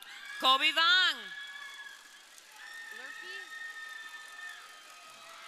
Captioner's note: crowd cheering